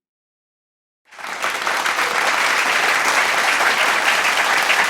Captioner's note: audience applauding